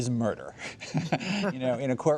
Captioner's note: laughter